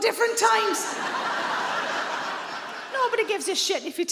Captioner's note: audience laughs